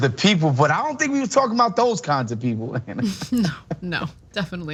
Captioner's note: laugh